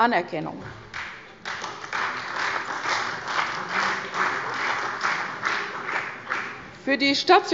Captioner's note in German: Beifall bei der CDU und dem BÜNDNIS 90/DIE GRÜNEN